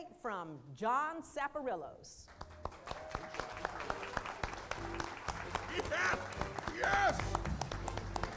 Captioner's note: applause